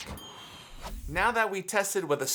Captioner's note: bell chime